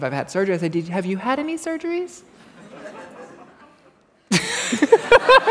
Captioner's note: laughter